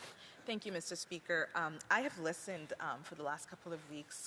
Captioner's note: speaking French